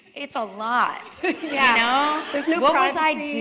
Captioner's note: laughter